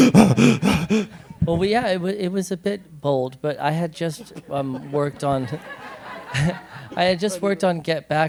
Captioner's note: gasping breaths; laughter; laughs